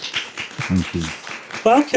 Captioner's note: audience applauding